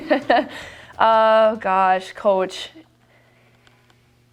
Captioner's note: laughing